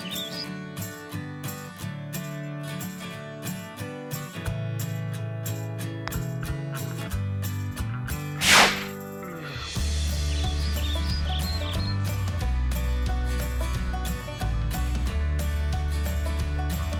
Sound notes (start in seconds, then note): 0.0 birds chirping; 0.3 cheerful upbeat music; 8.4 air whooshes; 9.7 cheerful upbeat music continues